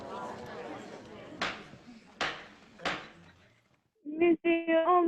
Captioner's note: excited buzz of voices; rap of gavel